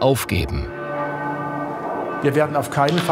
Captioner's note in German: Kirchenglocke